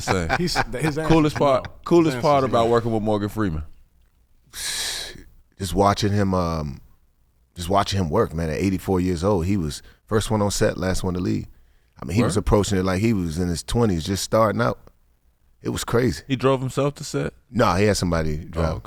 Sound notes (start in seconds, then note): 0.0 laughing; 4.8 blows air